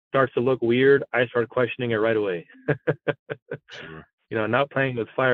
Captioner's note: laugh